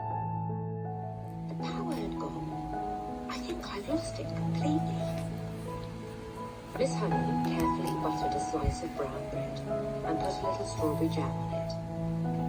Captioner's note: "Matilda" audiobook playing in the background